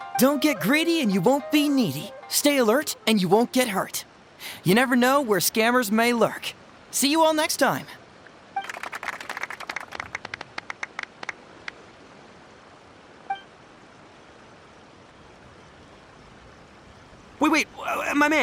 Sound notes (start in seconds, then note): 8.6 applause